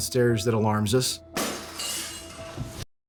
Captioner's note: glass crashing